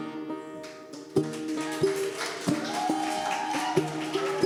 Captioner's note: music softens; audience applauding